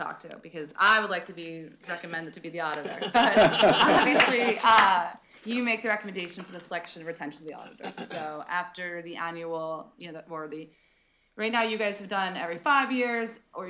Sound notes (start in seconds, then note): 2.7 laughter